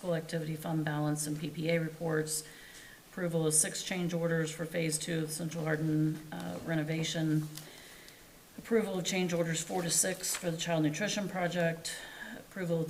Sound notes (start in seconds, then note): none